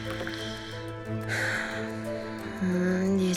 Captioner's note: sighs